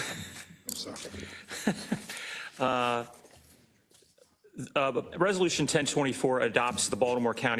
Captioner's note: laugh